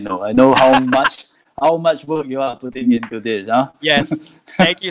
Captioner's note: laughs